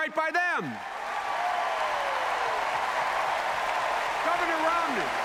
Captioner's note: applause